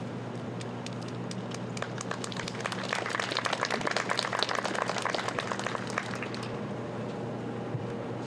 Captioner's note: applause